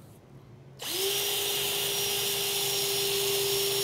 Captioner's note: drill buzzing